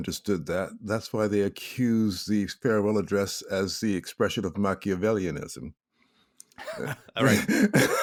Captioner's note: laughs